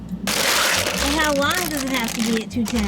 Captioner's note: crinkling